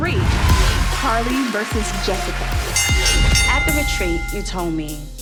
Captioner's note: bell dings